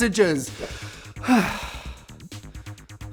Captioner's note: sighs